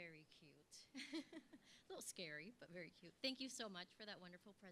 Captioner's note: laugh